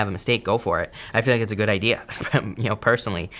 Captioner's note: laughs